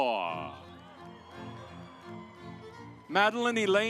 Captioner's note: audience applauds